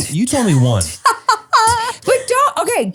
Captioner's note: laughs